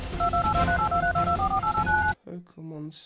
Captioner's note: dramatic music; rapid phone booping